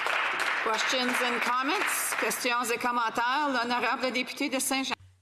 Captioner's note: applause